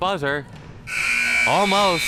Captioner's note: buzzer sounding